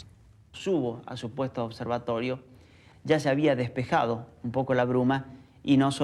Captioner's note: man speaking in foreign language